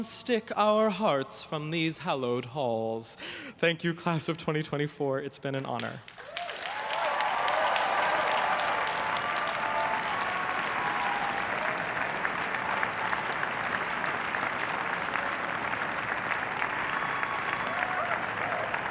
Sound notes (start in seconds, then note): 7.0 everyone cheering and applauding